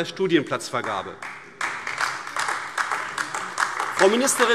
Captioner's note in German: Beifall AfD